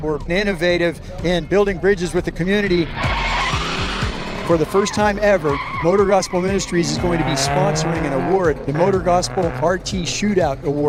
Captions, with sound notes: we're innovative in building bridges with the community. (vehicle engine roaring) (tires screeching) For the first time ever, MotorGospel Ministries is going to be sponsoring an award, the MotorGospel RT Shootout Award.